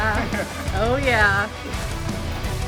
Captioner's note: laughing